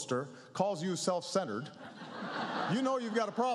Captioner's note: laughter